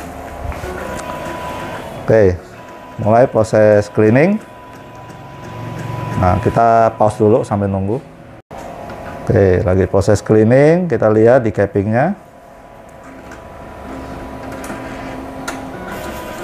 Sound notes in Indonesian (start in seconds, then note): 0.0 suara mesin printer; 5.3 suara mesin printer